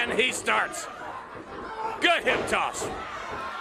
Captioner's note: crowd chatter